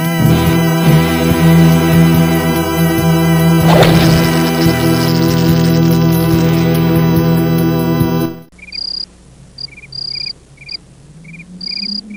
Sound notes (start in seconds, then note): 3.6 weapon whacks; 9.6 crickets chirping